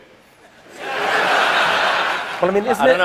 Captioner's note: laughter